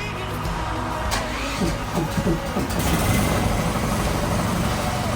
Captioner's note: machinery whirring